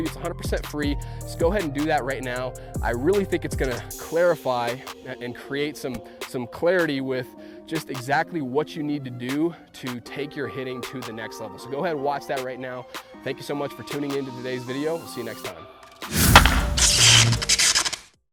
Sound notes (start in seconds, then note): 16.1 baseball bat cracking; 16.4 static crackling